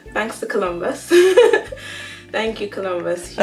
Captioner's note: laughter